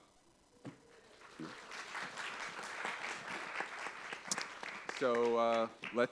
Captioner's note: applause